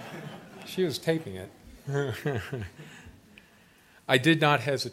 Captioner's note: laughter; laughs